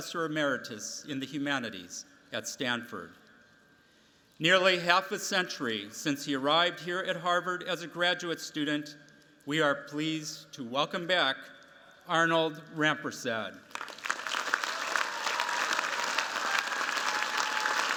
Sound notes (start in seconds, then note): 13.7 cheers, applause